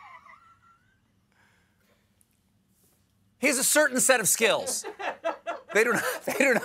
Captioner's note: laughter